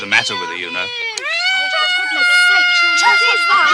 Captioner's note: boys screaming